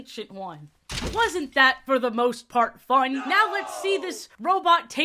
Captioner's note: crowd "no!" sfx